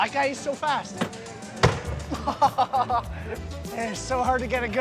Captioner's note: laughter